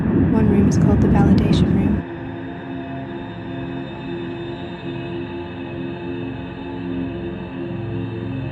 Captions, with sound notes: One room is called the Validation Room. (wind ends)